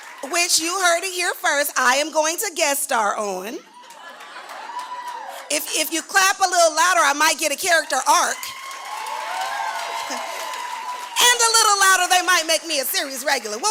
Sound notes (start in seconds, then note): 7.8 louder applause and cheering